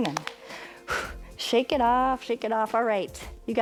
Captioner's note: hand slapping; exhale